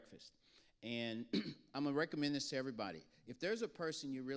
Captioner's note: clears throat